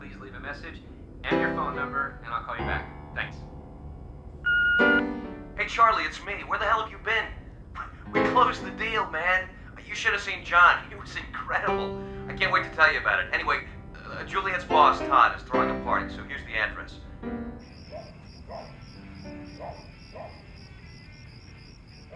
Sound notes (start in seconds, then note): 5.8 on phone; 17.6 crickets chirping, dog barking; 19.7 distant music